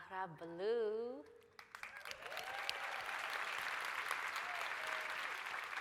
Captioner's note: applause, cheering